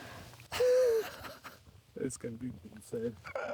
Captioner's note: laughs